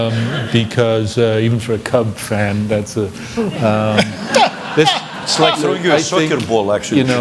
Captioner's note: laughter